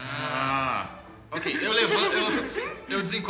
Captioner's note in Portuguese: Risadas